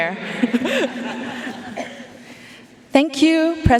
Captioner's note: chuckling